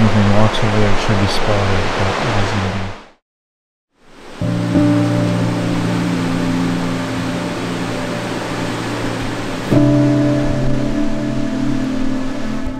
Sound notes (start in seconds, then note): 4.0 water rushing; 4.1 peaceful music